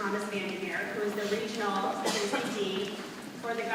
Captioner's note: coughing drowns out speaker